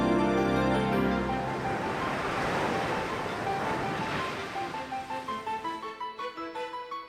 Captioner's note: waves crashing